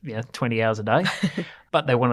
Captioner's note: laughs